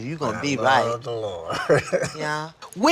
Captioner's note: laughs